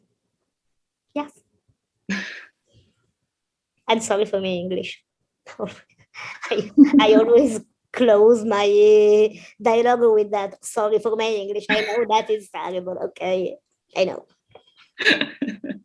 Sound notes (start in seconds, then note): 11.1 laughs